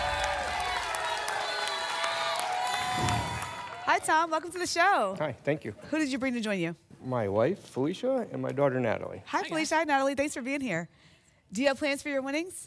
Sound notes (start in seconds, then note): 0.0 applause and cheering; 2.8 whoosh